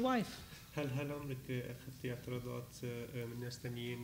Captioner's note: speaking arabic